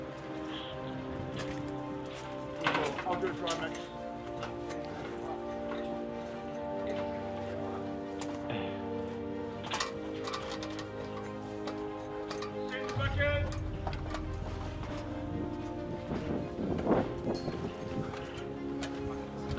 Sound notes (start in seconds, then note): 12.8 man calling out; 13.0 wind noise